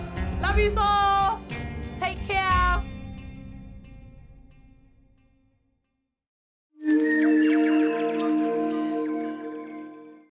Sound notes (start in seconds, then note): 7.3 birdsong, mystical chiming